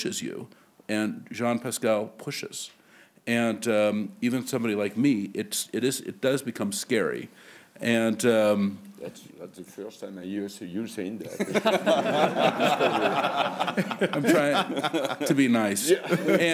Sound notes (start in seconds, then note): 11.2 laughter